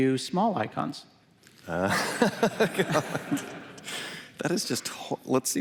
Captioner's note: laughter